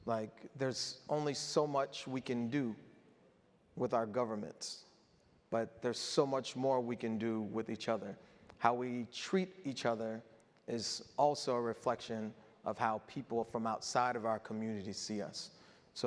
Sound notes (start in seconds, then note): none